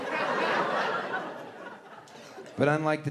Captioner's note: audience laughing